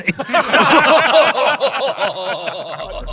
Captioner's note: group laughing